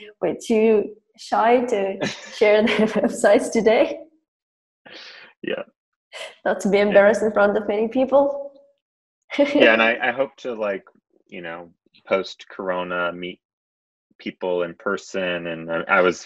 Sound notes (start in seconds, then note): 9.4 laughs